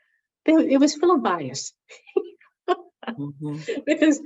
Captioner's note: laughs